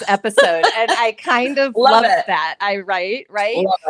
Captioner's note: both laughing